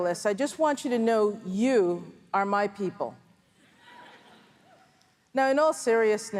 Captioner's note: laughter from audience